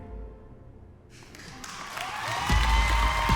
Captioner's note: audience applauds, whoops